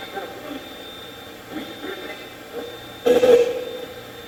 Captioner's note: Steve's Box chatters